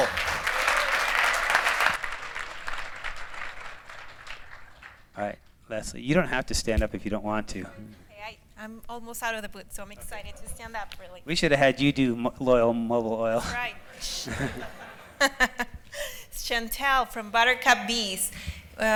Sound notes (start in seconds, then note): 0.0 applause; 14.0 laughter